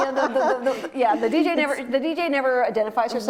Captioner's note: laughing